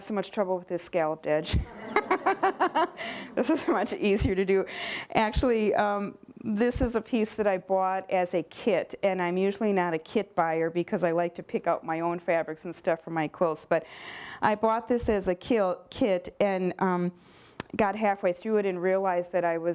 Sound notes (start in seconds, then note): 1.5 laughter